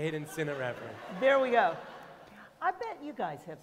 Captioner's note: laughter